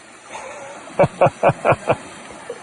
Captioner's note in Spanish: ríe